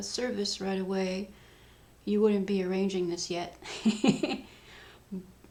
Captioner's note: laughs